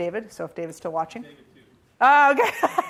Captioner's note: laughs